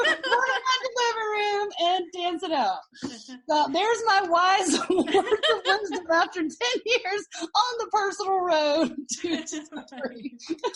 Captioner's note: laughing; laughing